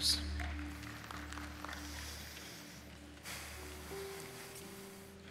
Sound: congregation applauds

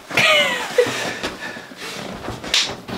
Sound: laughing

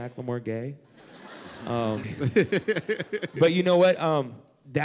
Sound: laughter

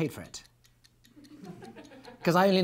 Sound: clock ticking; laughing

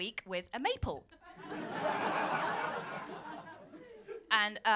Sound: laughter

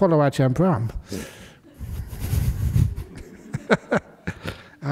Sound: laughter

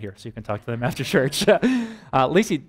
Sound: pastor: Laughter

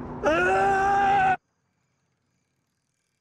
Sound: shouting

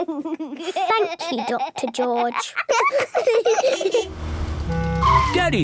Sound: laughs

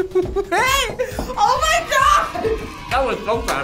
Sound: laughing; crowd cheers

